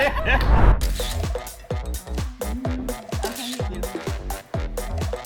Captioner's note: all laughing; camera shutter clicking